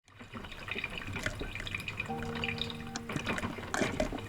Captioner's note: coffee dripping